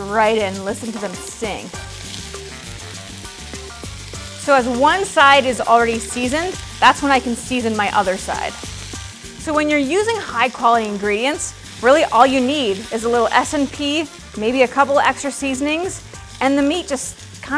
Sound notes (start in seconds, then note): 2.4 steaks sizzle; 3.4 steaks sizzling; 8.4 steaks sizzling; 9.3 upbeat world music